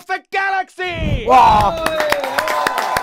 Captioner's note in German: Jubel, Applaus